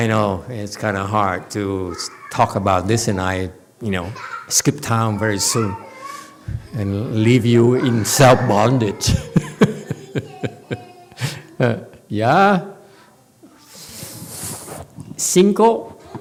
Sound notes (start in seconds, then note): 8.1 laughs